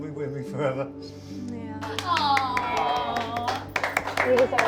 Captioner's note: everyone clapping